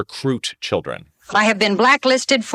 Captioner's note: soundbite of archived recording